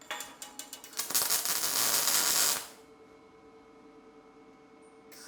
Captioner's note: metal sizzling